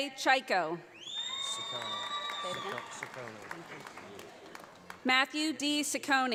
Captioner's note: audience applauds